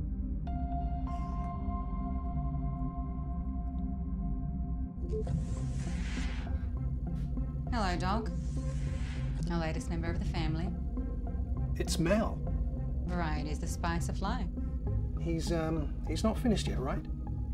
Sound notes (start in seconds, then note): 0.2 gentle music; 4.9 ambient music; 5.1 door beeps and whooshes